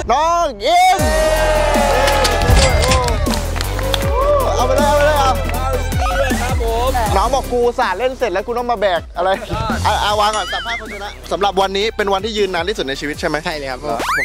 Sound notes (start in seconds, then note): 1.1 applauding